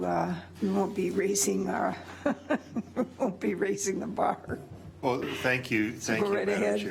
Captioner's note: laughs